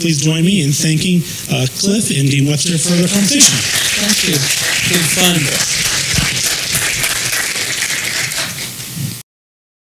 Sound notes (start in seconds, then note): 5.1 applause